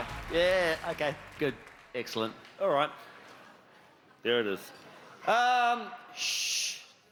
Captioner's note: cheers and applause